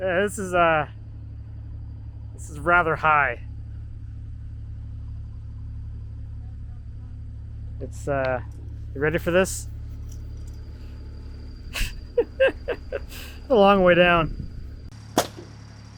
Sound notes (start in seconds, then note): 11.7 laughs